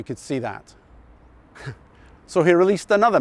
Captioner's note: chuckles